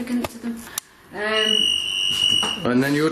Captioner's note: shrill ringing